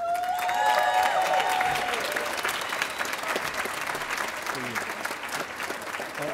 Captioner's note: audience cheering and applauding